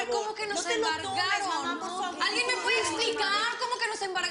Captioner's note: Hablan al unísono